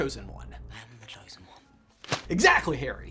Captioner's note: paper smacking